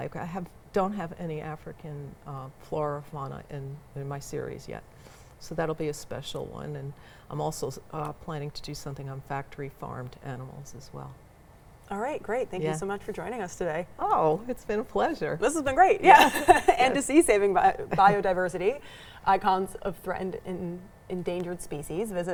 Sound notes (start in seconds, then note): 16.0 laughs